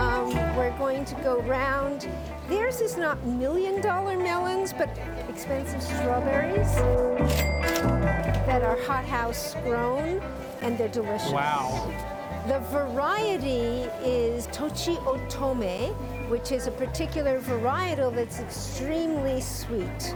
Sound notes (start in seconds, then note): 7.2 cash register rings